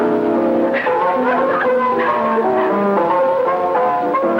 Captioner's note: Agnes laughing